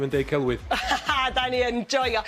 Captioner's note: laughter